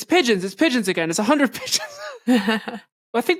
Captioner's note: laugh